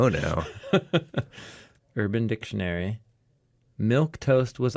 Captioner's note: laughs